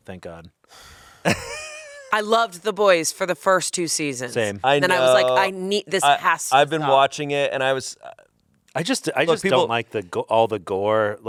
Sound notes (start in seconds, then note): 1.2 laughs